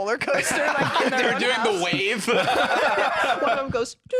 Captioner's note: laughing